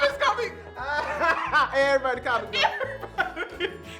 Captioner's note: laughs